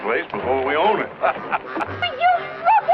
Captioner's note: laughing